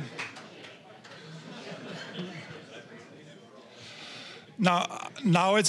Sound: applause; general chatter

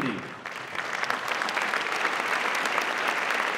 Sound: applause

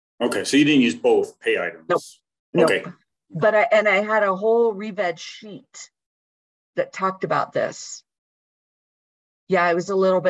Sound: talking

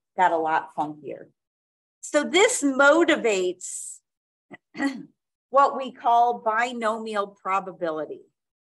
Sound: clears throat

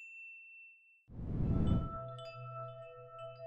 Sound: wind chimes

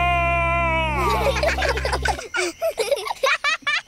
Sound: children giggle

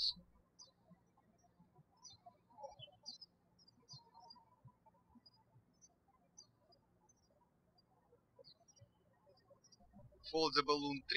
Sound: birds chirping

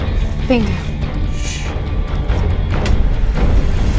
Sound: shushing

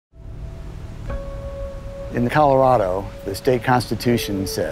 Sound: river flowing, birds chirping

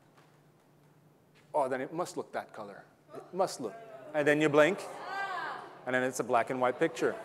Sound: audience gasping, talking, laughing

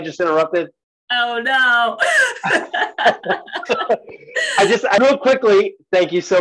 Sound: laughs

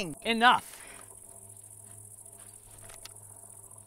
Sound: insects chirping

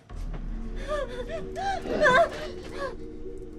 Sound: whimpers

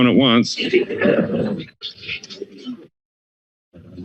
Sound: laughing

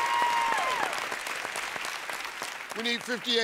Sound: cheers and applause

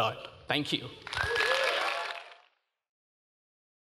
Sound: applause

